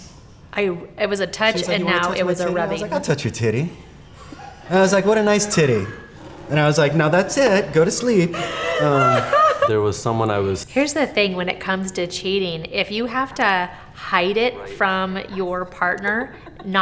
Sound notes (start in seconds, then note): 8.3 interviewee laughs